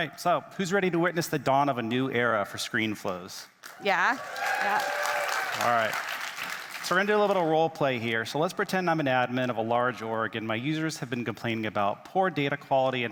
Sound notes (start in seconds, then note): 4.0 attendees cheering